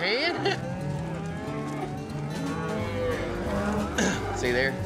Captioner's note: cows moo